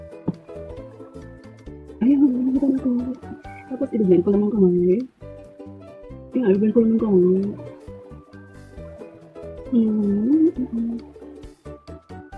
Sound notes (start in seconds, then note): 9.7 humming